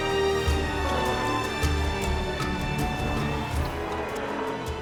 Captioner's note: seals barking